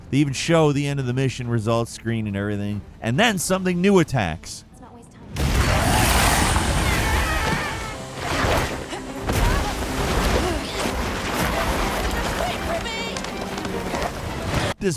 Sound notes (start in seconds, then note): 5.2 dramatic music; 5.5 monster shrieks; 13.7 dramatic music